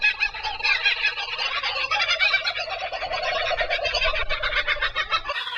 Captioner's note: kookaburra making noise